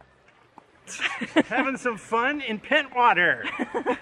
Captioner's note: laughter